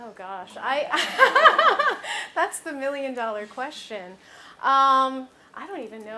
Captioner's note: laughs